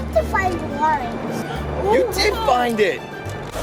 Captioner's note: gasps